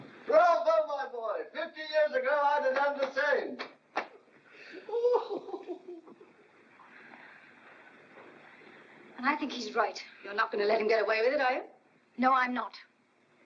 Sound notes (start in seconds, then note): 4.6 laughing